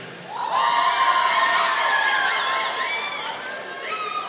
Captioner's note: audience cheering